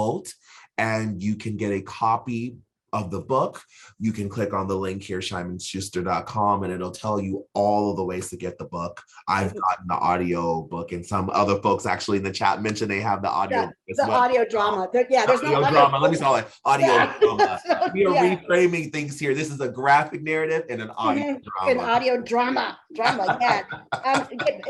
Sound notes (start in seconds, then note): 18.6 chuckling